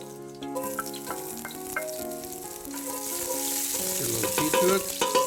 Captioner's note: sizzling